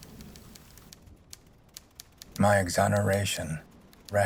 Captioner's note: typewriter keys clacking